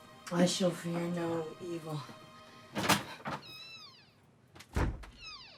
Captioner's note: door creaking